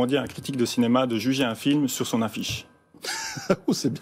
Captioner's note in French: rire